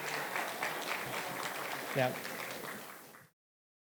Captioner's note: applause